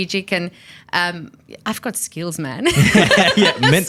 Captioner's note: laughs